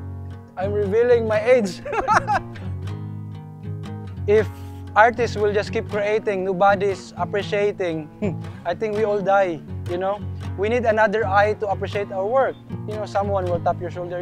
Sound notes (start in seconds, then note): 1.6 laughs